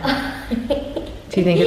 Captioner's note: giggling